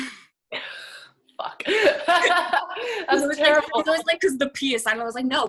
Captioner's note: laughs